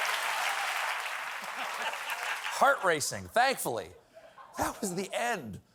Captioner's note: applause